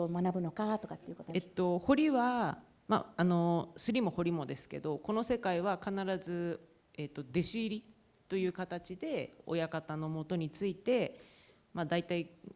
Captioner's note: speaking japanese